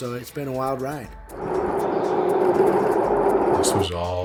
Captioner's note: jet engine